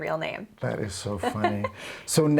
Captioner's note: laughs